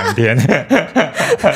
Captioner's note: laughs